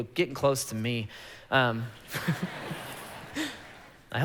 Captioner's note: congregation laughing